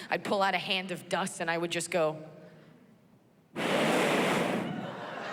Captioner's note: blows into microphone; laughter